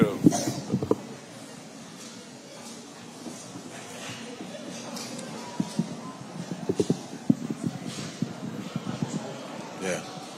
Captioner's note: audience shuffling and chatting